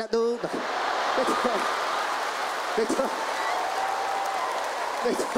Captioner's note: audience laughs and applauds